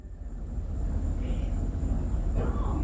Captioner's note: mysterious voice in background